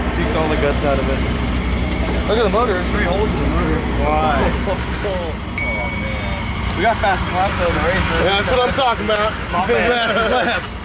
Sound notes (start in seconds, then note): 4.9 laughs; 5.6 bell sound